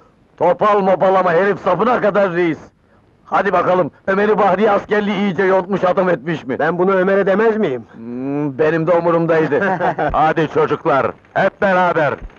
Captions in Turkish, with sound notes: Topla mopal ama herif sapına kadar reis! Hadi bakalım, Ömer'i, bahriye askerliği iyice yontmuş, adam etmiş mi? Ben bunu Ömer'e demez miyim? Benim de umurumdaydı! [Kahkahalar] Hadi çocuklar, hep beraber!